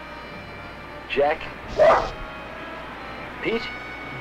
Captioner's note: Pete barking